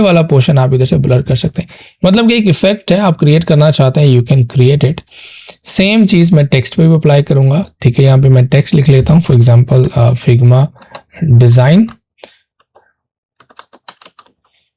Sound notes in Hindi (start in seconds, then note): 5.1 नाक से की जाने वाली आवाज़